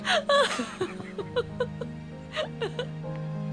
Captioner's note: laughter